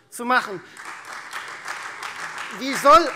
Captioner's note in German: Beifall